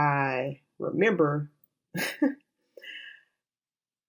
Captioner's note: slight laugh